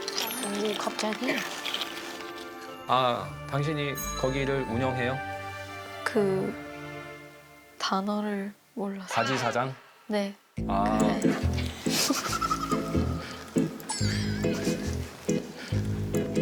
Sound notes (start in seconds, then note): 11.2 laughing